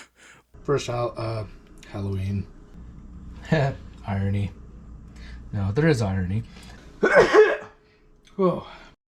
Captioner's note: sneeze